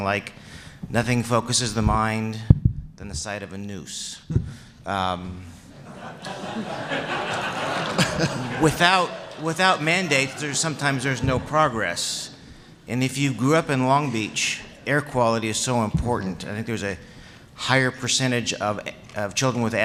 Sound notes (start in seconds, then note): 5.7 laughter